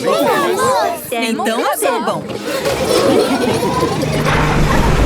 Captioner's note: laughing